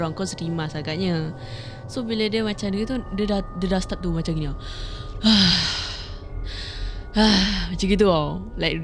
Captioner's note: deep breaths